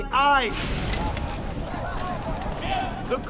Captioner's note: indistinct chatter